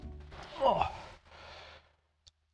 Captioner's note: grunt